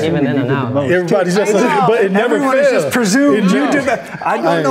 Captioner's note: guests chatter